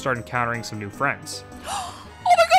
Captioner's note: gasp